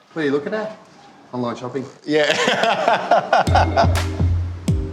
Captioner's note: laughs